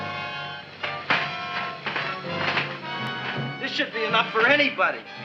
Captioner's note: ladder rattling